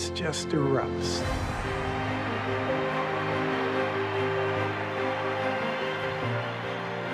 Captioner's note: cheering